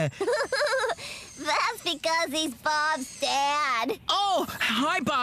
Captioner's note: giggles